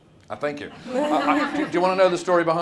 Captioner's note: audience laughs